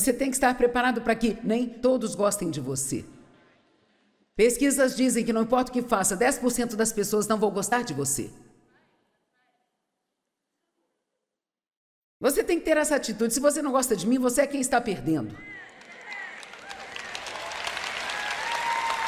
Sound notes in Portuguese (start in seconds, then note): 15.4 plateia aplaudindo